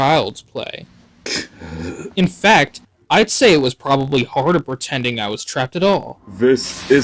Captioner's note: Zazelmare grunts